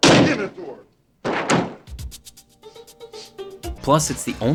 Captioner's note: door banging